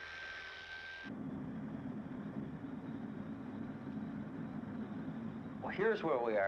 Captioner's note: car motor rumbling